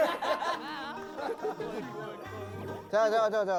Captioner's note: laughs